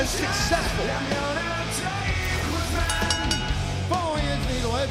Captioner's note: bell dinging